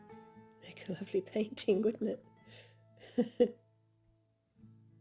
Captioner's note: laughs